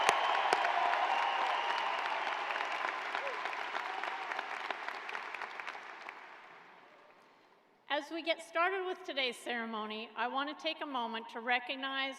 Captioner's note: cheers and applause